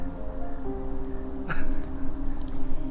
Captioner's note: dramatic music; chuckles